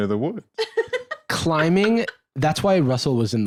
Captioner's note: laughs